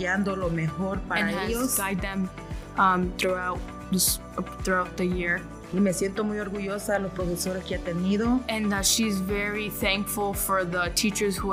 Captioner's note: speaking spanish